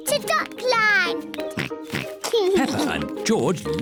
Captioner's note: oinks